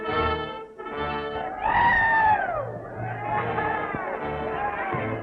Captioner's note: cheering